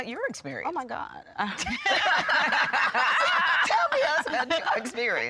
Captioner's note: everyone laughing